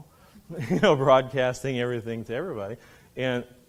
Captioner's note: laughing